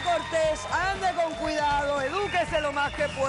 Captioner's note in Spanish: aplausos